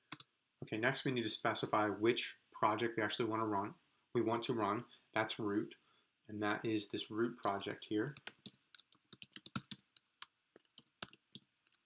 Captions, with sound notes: Okay, next we need to specify which project we actually wanna run. We want to run, that's ROOT and that is this ROOT project here. (typing)